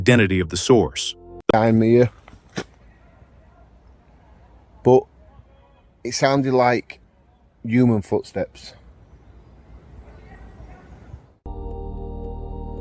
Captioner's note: footstep-like sounds